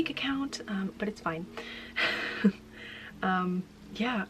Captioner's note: laughing